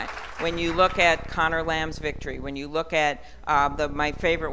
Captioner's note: applause